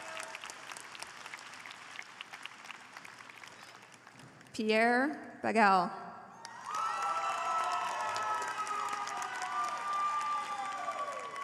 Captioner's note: applause